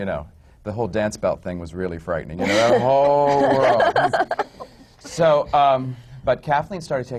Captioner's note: laughs